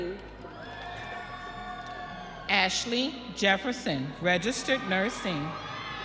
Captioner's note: audience cheering